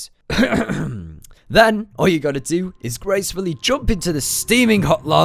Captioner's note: clears throat